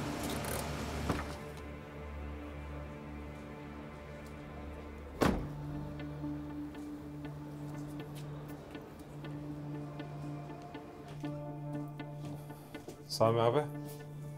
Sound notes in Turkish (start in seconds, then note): 0.1 Kapı açılma sesi; 5.2 Kapı kapatma sesi